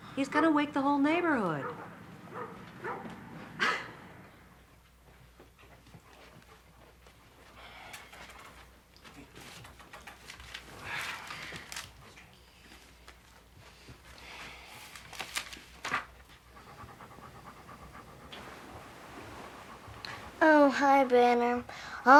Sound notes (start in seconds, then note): 2.9 scoffs; 11.1 Steve sighs; 15.8 dog panting